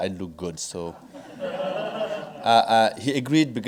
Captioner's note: audience laughing